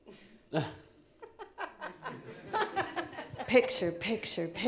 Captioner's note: laughing